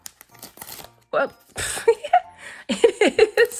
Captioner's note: laughs